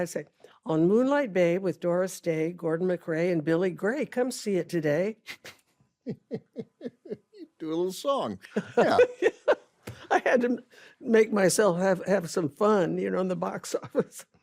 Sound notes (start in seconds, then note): 6.0 laughs; 6.0 ben laughs; 8.9 laughs